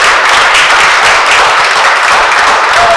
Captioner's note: applause